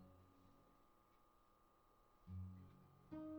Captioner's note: static noise